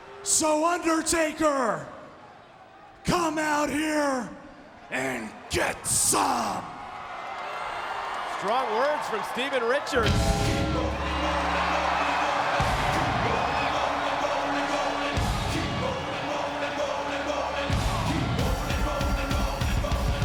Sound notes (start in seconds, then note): 7.3 crowd cheering; 12.1 crowd cheering; 12.1 upbeat music